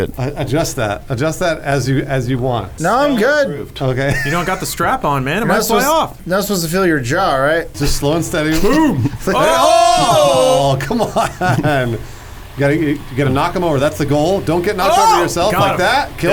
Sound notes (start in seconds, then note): 8.5 exclaims; 11.7 laughs